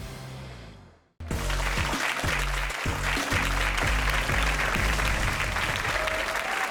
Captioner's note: upbeat music; audience clapping